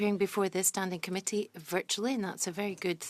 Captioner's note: speaking French